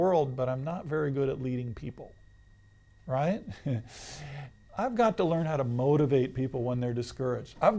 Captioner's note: laughs